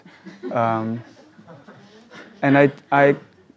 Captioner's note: audience laughs